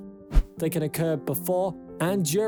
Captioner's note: screen swishes